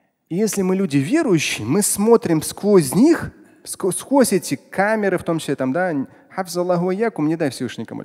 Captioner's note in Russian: Говорит на арабском